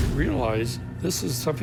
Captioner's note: swooshing